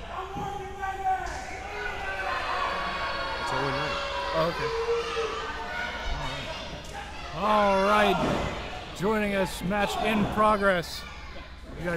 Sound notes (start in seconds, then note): 2.5 crowd boos